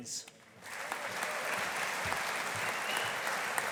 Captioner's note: audience applauding